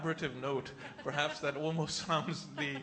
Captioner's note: laughter